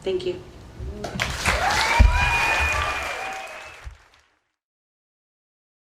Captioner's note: audience applauding